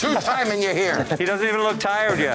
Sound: laughs

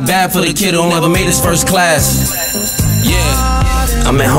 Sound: bell ringing

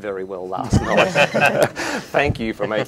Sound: laughing

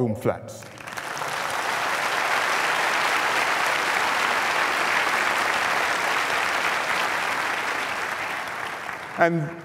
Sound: applause

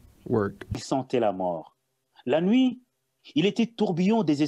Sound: reading in French

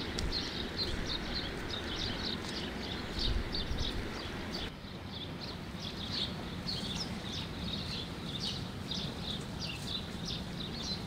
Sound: birds singing

